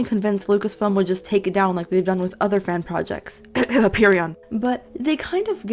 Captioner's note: cough cough